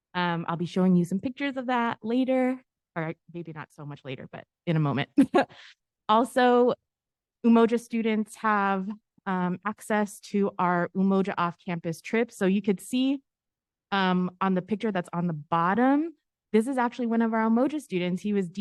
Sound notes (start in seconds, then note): 5.2 giggle